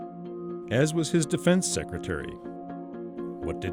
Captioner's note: voiceover